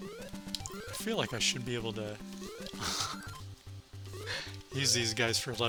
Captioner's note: laughs